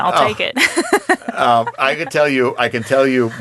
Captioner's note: laughing